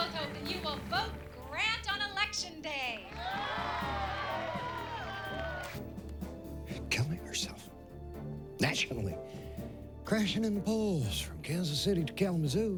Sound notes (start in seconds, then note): 2.7 <i> cheers and applause</i>